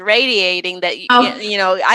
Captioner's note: laughs